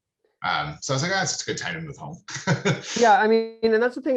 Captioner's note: laughing